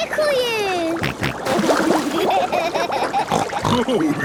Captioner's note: snorting, giggling